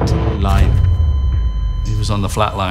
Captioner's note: dramatic music; cardiac monitor beeping